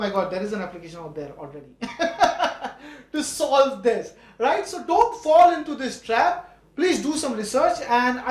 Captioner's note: laugh